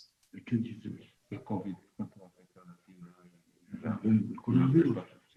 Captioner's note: speaking spanish